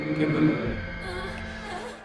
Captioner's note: groaning